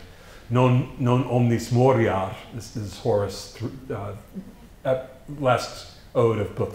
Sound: foreign language

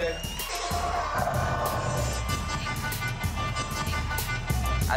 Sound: air horn blaring

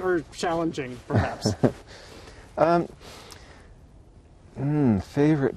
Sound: chuckles

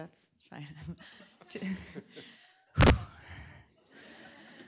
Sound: laughter

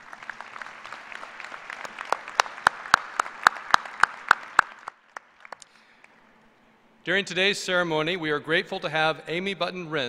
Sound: applause

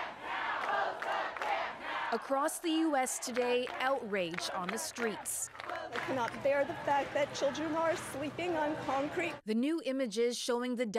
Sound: chanting

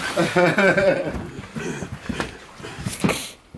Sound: laughs

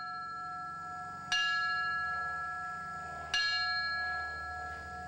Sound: bell rings

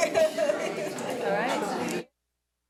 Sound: committee chattering

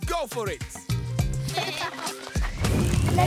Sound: laughing

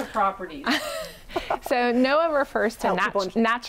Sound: laughs

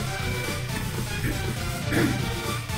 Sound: clears throat

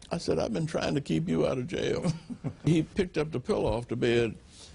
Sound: laughter

